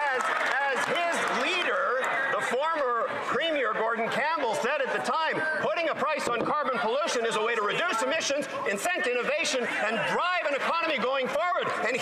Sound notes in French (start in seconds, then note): 0.0 applaudissements; 9.2 voix de l'interprète